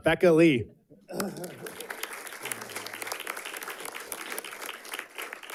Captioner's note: audience clapping